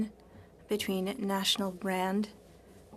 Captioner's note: speaking French